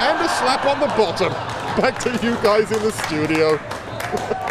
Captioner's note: laughter